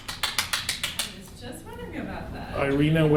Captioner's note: claps